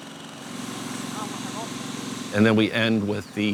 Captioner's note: hiss of spraying water